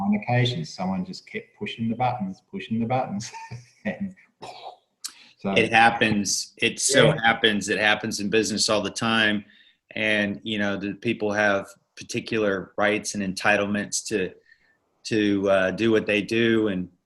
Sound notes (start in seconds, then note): 3.2 chuckles; 5.1 vocalizes